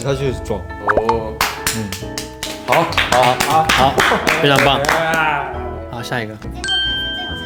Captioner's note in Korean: 박수